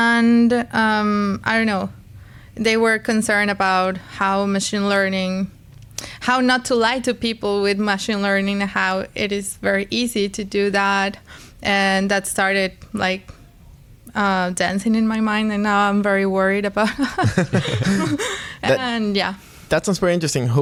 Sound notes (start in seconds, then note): 16.8 laughter